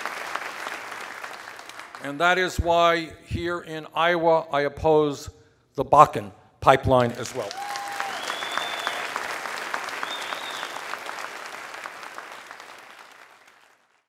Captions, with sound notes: And that is why, here in Iowa, I oppose the Bakken pipeline as well. [cheers and applause]